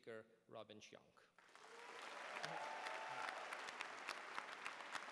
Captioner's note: applause